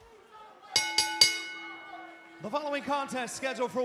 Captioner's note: bell ringing